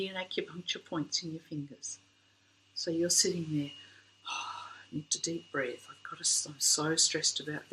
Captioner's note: exhale